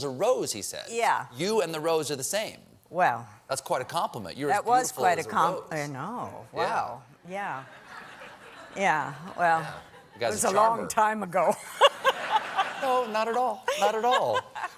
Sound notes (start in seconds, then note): 7.7 laughter